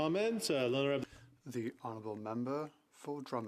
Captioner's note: speaking French